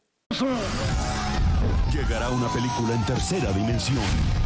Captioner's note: speaking in Spanish